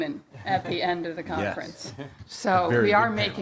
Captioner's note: laughing